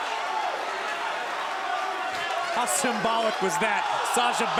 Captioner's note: crowd cheering; crowd chatter